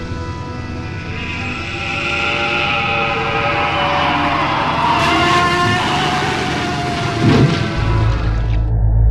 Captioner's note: Waluigi roars